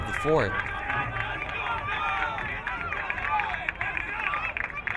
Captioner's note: crowd cheering